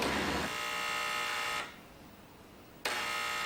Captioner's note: doorbell buzzing